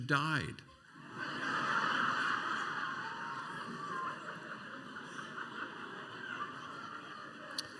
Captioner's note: laughter